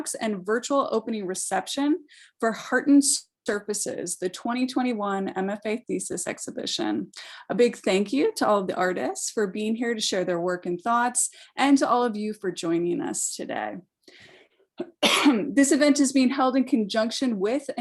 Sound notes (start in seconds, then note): 14.8 coughing